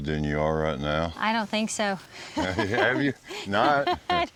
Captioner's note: laughing